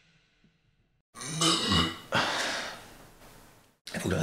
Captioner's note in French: Bruit de rot